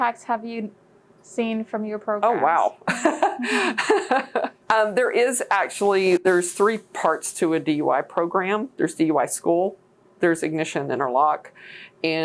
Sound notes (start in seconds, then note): 2.8 laughs